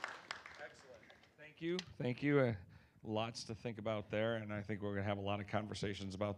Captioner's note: applause